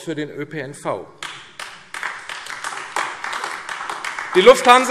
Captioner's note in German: Beifall AfD